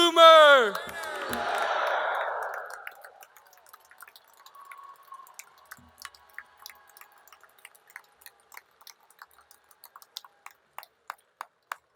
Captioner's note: applause